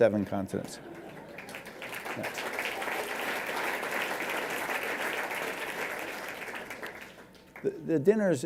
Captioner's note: applause